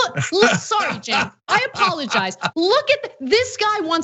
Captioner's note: laugh